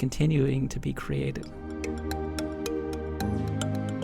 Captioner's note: voiceover